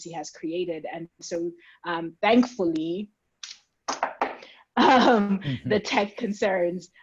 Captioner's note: knocks on wood